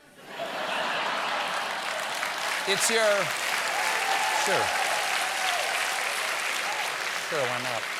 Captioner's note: laughter; applause